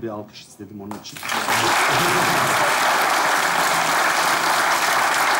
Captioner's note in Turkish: Alkış sesleri